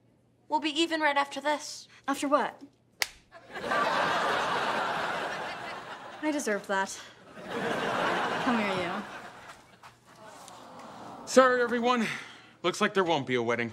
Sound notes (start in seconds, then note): 3.4 audience laughing; 10.2 audience awwing